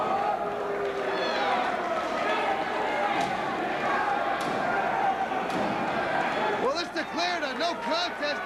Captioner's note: crowd cheering